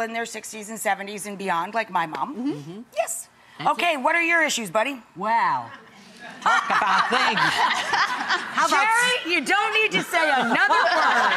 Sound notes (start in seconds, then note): 6.4 Rachael laughs